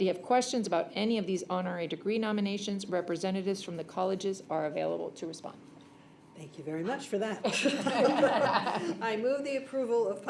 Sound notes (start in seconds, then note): 7.4 laughter